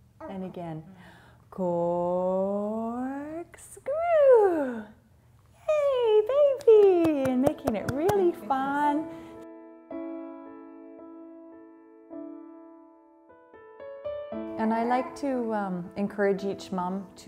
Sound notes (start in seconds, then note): 6.5 clapping; 9.6 gentle piano music